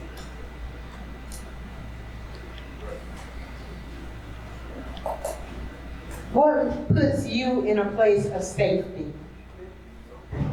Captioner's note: audience chattering